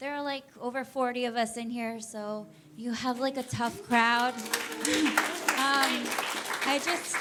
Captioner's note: audience applauds